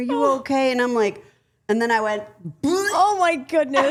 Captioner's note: burps